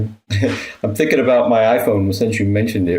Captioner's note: chuckles